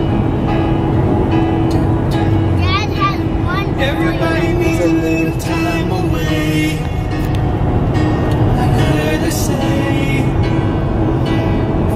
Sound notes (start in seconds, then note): 2.6 kids chattering